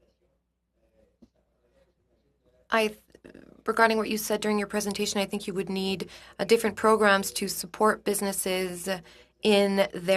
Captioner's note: speaking French